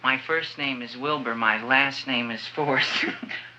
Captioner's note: laughs